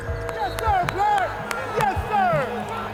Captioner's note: clapping